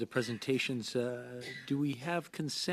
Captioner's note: speaking French